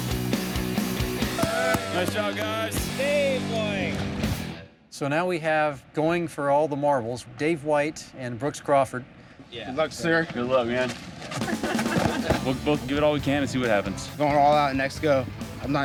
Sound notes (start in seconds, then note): 1.2 crowd cheering